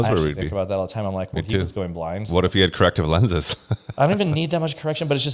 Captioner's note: laughs